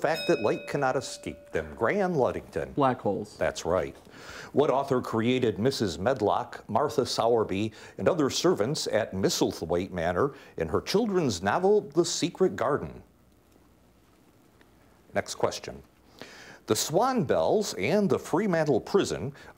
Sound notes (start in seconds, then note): 0.0 bell ringing